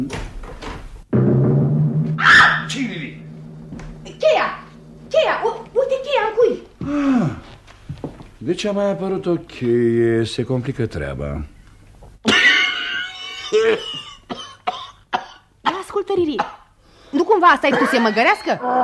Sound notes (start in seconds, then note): 2.2 screams frightened; 13.3 coughs